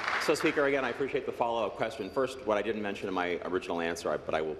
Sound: applause

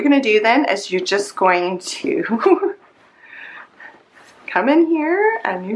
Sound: chuckles

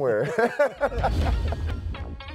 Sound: laughter

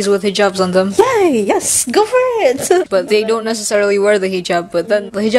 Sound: chuckles

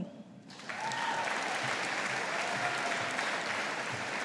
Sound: audience applauding

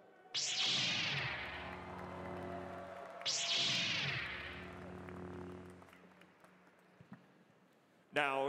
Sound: lightsabre noises

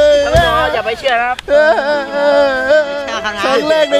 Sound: cries

